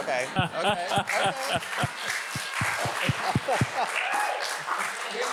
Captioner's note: audience applauds